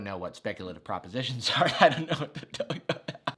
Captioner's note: laughs